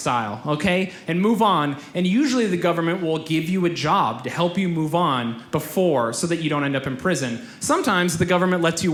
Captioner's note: none